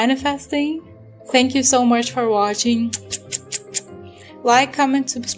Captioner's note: kiss noises